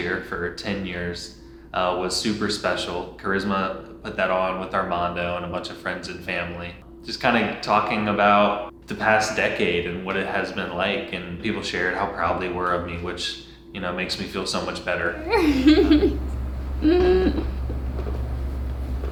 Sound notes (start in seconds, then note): 15.1 laughing